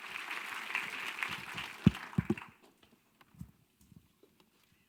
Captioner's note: audience clapping